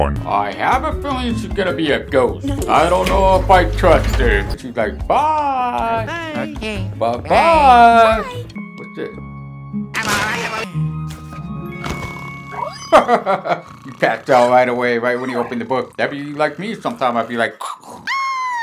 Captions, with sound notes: I have a feeling she's gonna be a ghost I don't know if I trust her She's like byyyyee! Buh-bye What's this? [Chuckles] He passed out right away right when he opened the book That'd be like me sometimes. I'd be like... [Snoring sound]